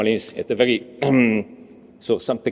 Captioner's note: he clears throat